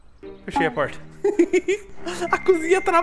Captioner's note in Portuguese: Risos